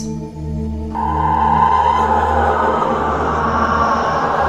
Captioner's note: eerie moaning